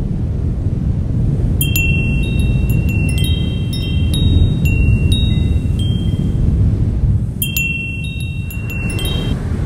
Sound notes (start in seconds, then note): 1.6 wind blowing and bell clanging; 8.9 wind blowing